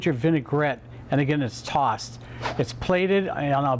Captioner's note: swish